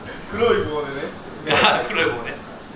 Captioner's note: laughs